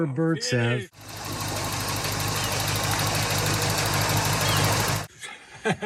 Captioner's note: car engine roaring